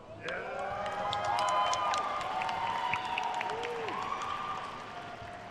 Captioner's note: attendees cheering and applauding